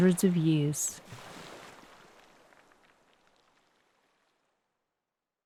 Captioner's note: water trickling